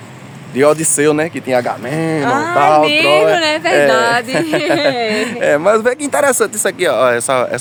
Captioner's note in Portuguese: risadas